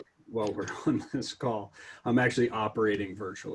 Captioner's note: laughter